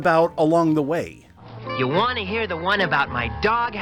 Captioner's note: Voice of Snoopy